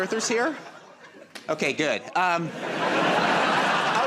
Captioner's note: laughter